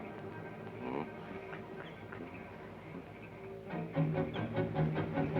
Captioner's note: Joshua hums melodically